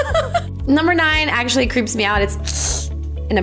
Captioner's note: laughs; hissing noise